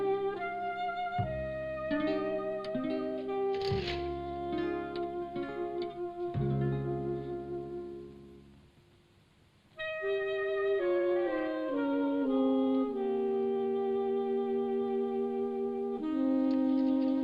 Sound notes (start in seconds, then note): 2.0 shades crackle; 4.5 melancholy music